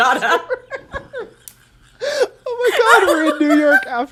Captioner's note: both laugh